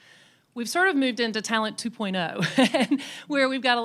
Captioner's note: laughs